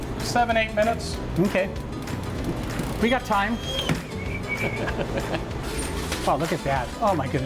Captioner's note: chuckles